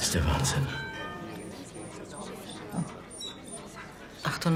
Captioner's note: bell chimes; whining